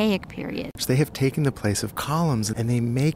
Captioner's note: voiceover